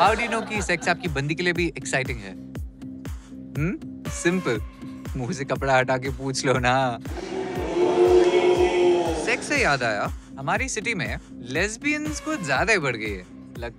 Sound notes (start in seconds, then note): 7.1 Audience booing